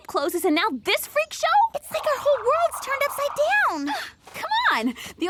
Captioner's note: laughs